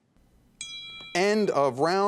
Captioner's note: bell clanging